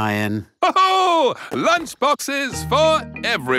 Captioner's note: laughs